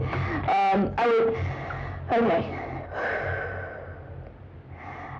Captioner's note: sigh